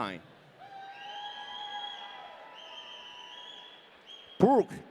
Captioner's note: audience cheering